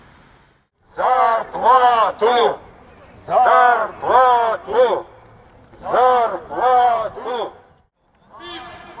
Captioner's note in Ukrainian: скандують